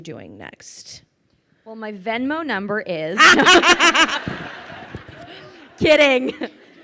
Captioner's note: laughing